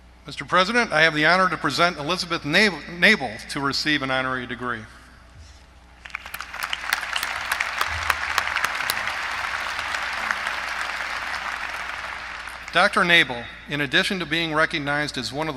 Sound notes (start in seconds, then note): 6.0 applause